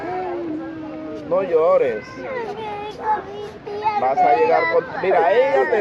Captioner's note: kid crying; speaking in foreign language